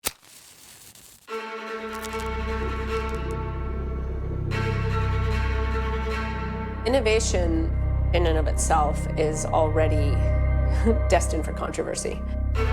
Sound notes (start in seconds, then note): 0.0 match sizzles; 1.4 dramatic music; 12.5 dramatic music